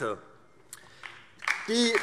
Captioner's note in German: Beifall